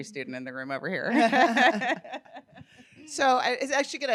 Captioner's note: laughing